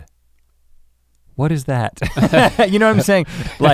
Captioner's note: chuckles